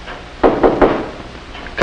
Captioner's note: knocking